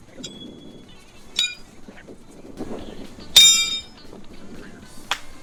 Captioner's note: horseshoese clanging